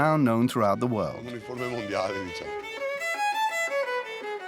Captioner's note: Italian spoken audio